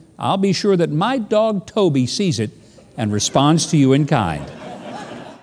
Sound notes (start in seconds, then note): 3.0 audience laughing